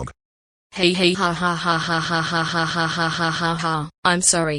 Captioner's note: laughing